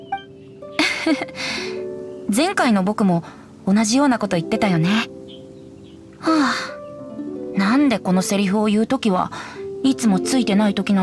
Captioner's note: sigh